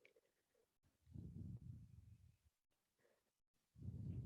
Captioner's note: breathing